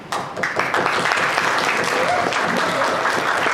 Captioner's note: clapping